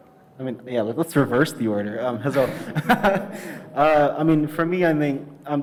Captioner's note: laughs